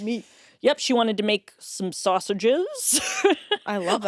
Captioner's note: laughs